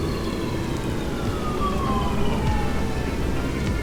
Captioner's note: a buzzing hum, raindrops; mysterious, somber music; distant sirens; mysterious, somber music; a buzzing hum, raindrops